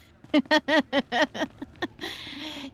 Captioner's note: laughing